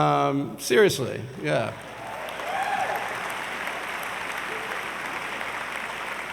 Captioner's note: audience cheers and applauds